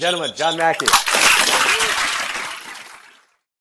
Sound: applause

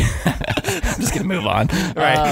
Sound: laughing

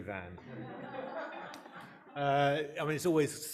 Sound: audience laughing

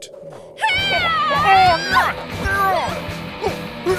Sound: screaming

